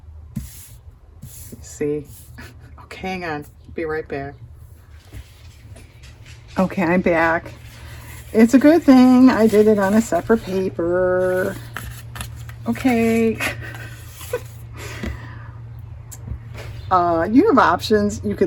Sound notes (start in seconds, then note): 13.4 laughs